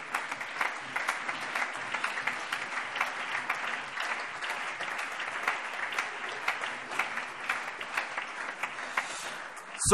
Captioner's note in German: Allgemeiner Beifall